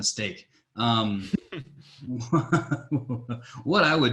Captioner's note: laughing